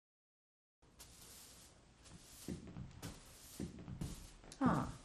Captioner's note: broom sweeping